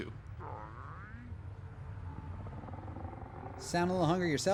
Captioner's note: stomach growling